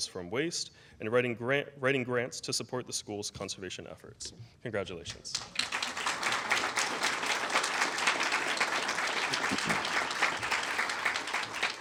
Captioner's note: applause